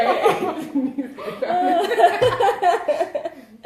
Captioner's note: laughs